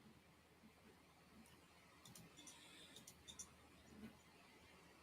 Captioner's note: mouse clicking